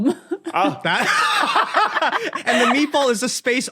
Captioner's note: laugh uproariously